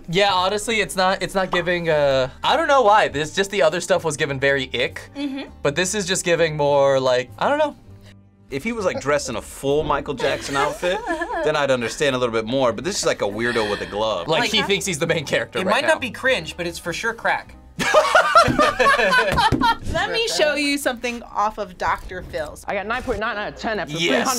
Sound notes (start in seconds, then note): 17.8 both laugh